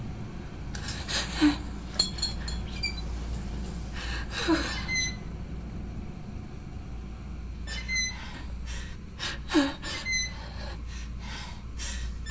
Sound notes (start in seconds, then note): 2.6 light bulb hissing